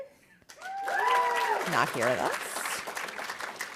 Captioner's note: audience applauding